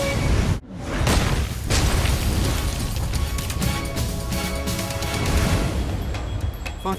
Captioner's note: logo slams; dramatic music